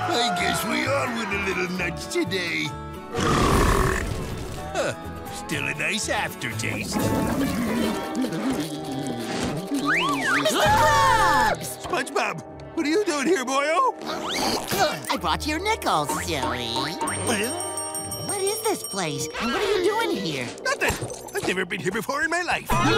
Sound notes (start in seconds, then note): 9.8 shrieks